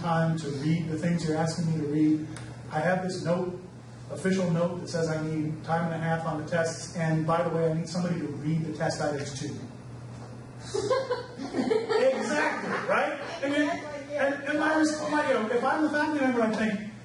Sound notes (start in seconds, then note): 10.6 audience laughs